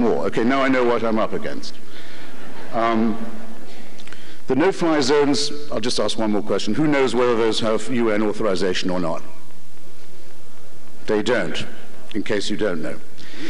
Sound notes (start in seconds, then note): 2.2 laughter